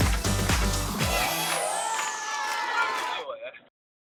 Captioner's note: cheering